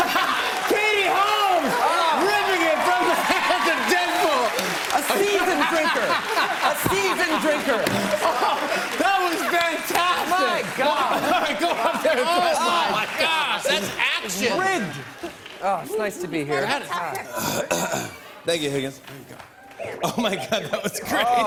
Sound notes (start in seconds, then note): 11.2 laughing; 17.2 clears throat; 19.9 chuckling